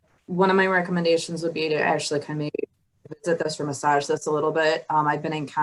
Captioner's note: audio blurs